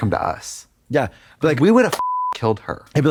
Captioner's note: beep